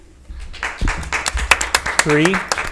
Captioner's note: audience applauds